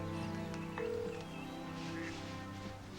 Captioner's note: ringing tone